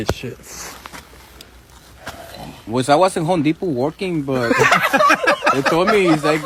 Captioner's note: in a heavy accent